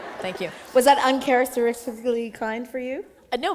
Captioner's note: laughter